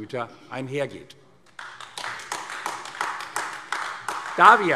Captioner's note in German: Beifall AfD